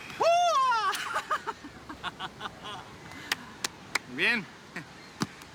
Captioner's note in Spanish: Risas